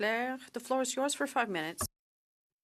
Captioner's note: speaking in French